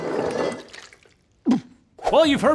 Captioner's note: splashing